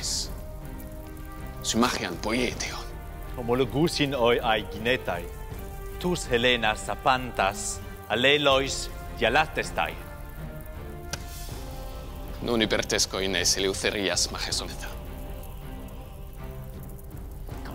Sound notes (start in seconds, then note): 3.5 Aeginan speaking in foreign language; 12.6 Themistocles speaking in foreign language